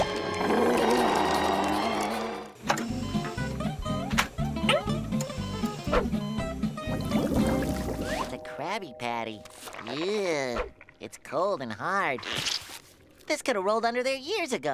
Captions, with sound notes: [growling] [beeping] A Krabby Patty, ew, cold and hard. This could've rolled under there years ago.